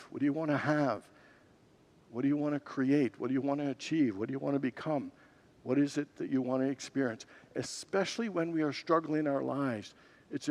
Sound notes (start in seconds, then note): none